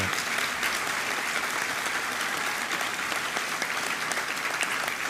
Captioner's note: applause